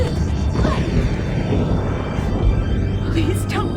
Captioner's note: thunder crashing